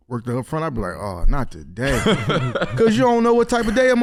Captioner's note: laughs